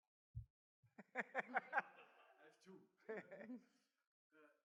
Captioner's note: laughing